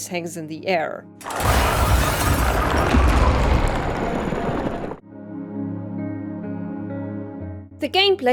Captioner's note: sounds of crashing and alien presence